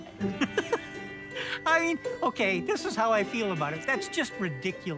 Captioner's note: laughs